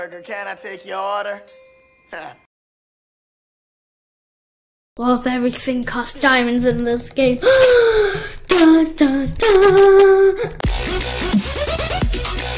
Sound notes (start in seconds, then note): 7.4 gasp